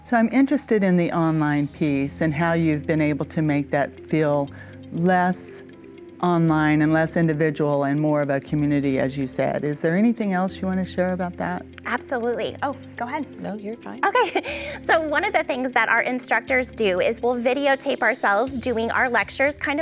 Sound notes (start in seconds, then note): 14.1 laughs